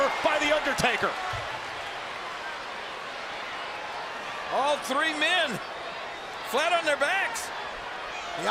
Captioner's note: applause